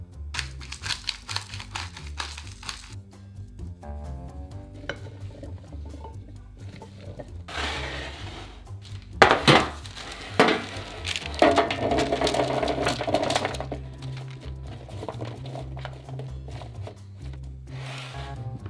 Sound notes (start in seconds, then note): 0.3 cracking pepper; 9.3 baking sheet sliding; 11.6 veggies dropping